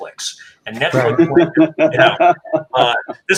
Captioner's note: chuckling